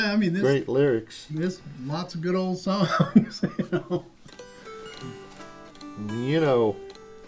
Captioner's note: laughter